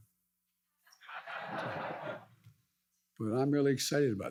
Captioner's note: audience laughs